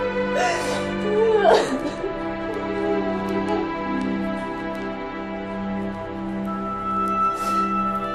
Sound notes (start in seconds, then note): 1.0 Minda wailing